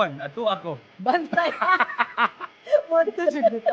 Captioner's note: laughs